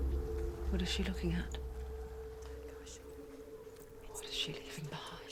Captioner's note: whisper